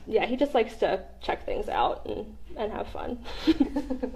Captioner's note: laughter